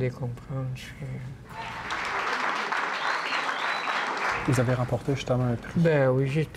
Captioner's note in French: applaudissements